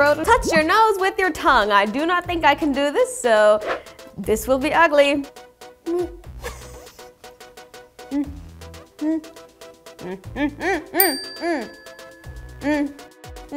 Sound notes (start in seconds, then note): 6.4 laughs; 8.1 hums; 11.0 bell dings